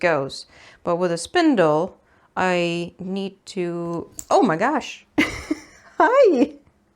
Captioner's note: giggles